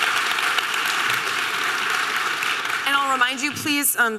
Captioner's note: audience applause